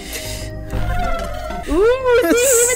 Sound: offscreen ghostly ooo's

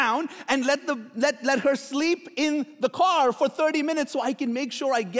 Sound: none

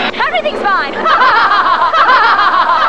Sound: crowd laughter; crowd laughter!!!

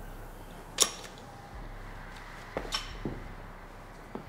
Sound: metal clicking

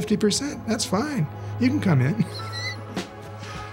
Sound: laughs

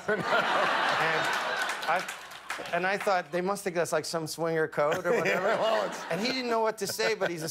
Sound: laughter

